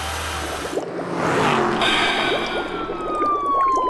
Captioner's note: car engine starts; liquid bubbling; engine racing; whistle